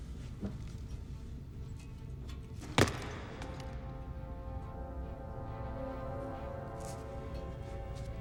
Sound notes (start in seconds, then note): 2.7 feet thudding; 3.8 suspenseful music